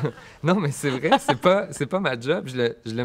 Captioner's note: laughs